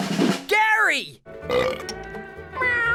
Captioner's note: burping